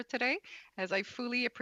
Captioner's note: speaking French